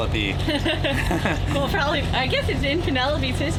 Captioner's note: laughs